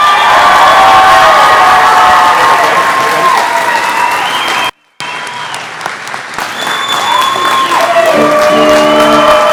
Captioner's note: clapping